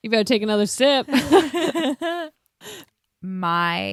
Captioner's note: laughs